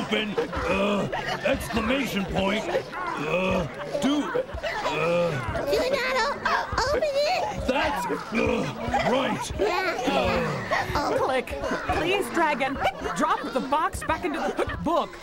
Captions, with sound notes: UH... EXCLAMATION POINT UH... DO ( hiccups ) UH... DO NOT... OPEN IT? THAT'S... RIGHT. ( everyone hiccuping ) CLICK, PLEASE DRAG AND DROP THE BOX BACK INTO THE BOOK.